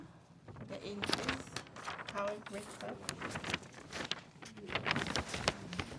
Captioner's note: paper rustling